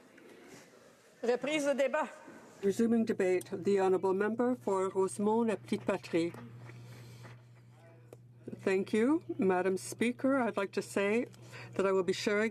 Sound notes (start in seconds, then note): 6.1 speaking French